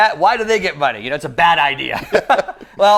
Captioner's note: laughs